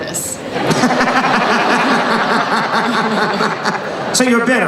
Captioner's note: laughing